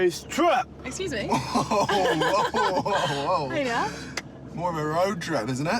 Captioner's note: laughs